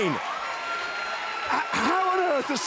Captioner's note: crowd cheering